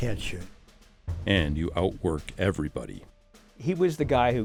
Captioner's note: voiceover